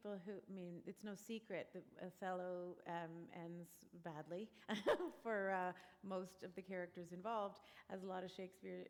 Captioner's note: laughter